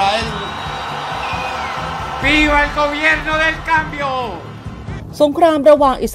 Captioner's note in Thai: ปรบมือ